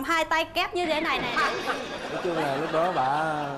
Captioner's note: laughing